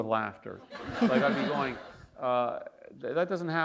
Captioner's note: laughter